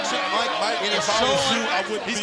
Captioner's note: crowd chatter